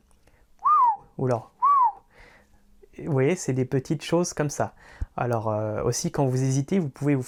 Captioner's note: whistle